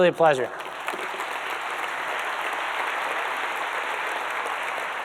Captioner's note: audience claps